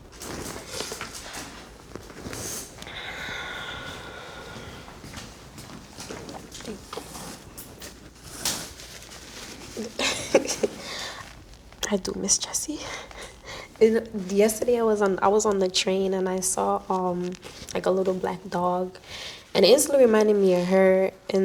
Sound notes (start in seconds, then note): 9.8 laughing